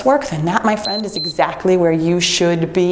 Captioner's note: timer beeps